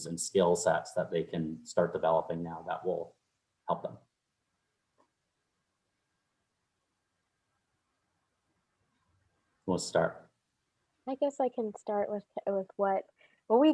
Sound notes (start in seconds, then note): none